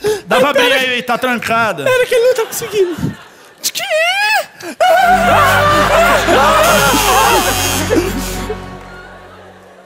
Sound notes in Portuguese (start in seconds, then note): 6.7 campainha